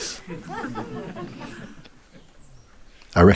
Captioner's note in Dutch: gelach